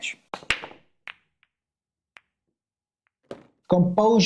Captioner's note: billiard clacking